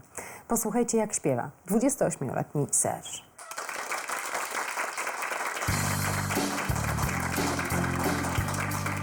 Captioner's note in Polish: Aplauz